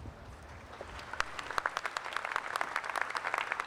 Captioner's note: applause